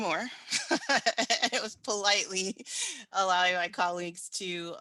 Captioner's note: chuckles